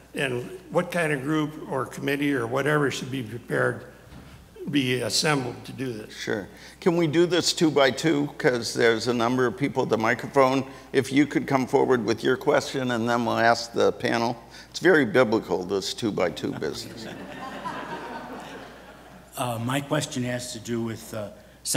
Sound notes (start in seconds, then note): 16.4 audience laughs